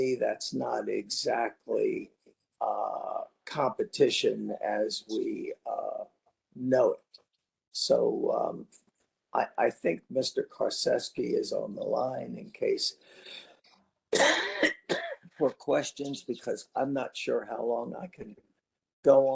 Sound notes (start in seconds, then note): 14.1 cough